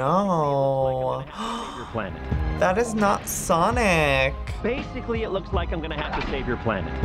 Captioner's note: gasps